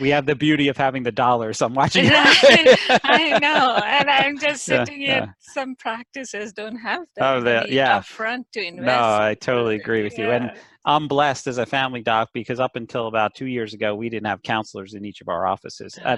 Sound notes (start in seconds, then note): 1.7 laughter